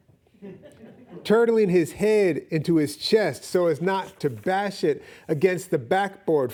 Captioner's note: audience laughing